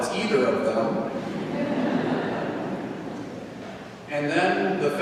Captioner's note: congregation laughing